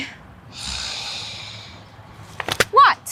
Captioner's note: Matt sighs